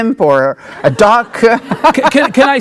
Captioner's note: laughing